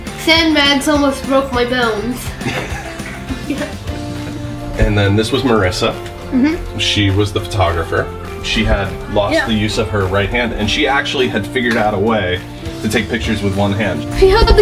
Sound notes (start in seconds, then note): 2.3 laughs